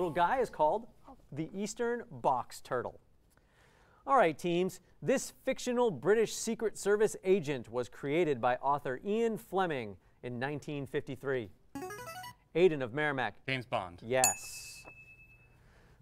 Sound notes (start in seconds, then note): 11.8 player buzzer; 14.2 ding